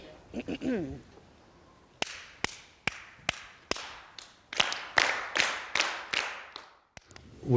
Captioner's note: claps five beats - the class repeats it back